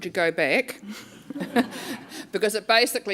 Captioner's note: laughing